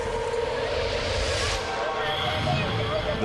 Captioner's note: woman shouting